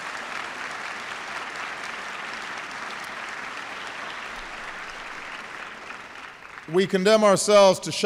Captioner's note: applause